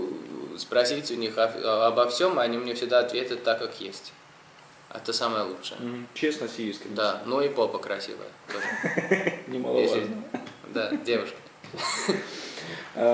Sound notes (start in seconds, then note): 8.5 laughing